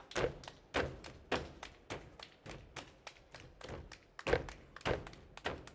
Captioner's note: hands clapping and feet stomping